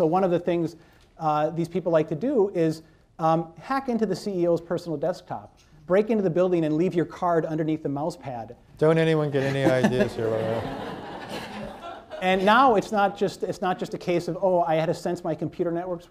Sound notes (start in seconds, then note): 9.4 laughter